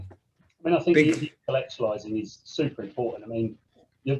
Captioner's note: voice muffling